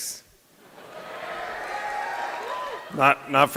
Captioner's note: laughter; cheering